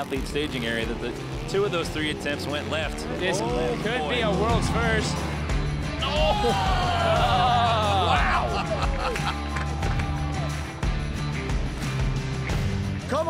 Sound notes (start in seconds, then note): 5.8 crowd exclaims; 8.9 energizing country music